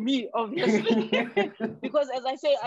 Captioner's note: laughter